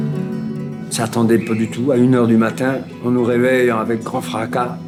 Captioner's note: French spoken audio